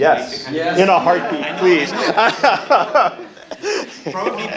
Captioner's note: laughs